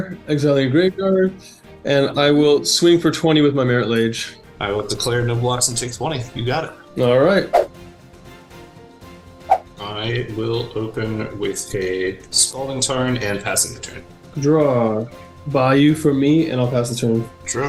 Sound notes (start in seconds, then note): 7.9 swooshing; 7.9 upbeat music